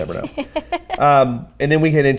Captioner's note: laughs